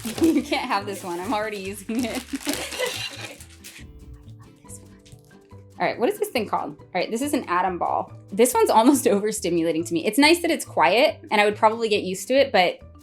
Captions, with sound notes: You can't have this one, I'm already using it. [laughing] [whispering] I love this one. Alright, what is this thing called? Right, this is an Atom Ball. This one's almost over-stimulating to me. It's nice that it's quiet, and I would probably get used to it but